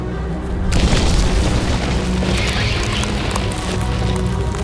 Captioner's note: lava freezing